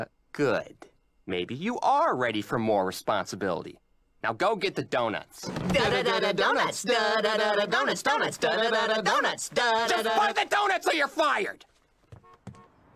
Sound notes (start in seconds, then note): 7.2 #rapping about doughnuts; 9.9 shouting